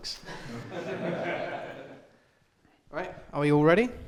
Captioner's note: laughter